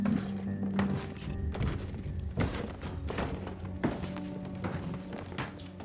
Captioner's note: footsteps thumping